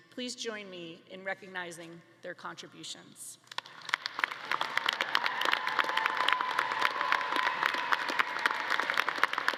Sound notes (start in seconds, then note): 3.4 all clapping; 4.4 audience cheering